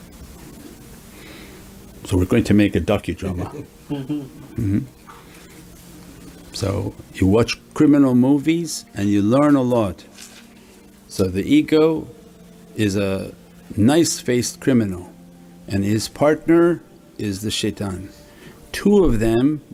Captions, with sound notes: So we're going to make a docu-drama. [Laughs] So, you watch criminal movies, and you learn a lot. So the ego is a nice-faced criminal, and his partner is the shaytan. Two of them,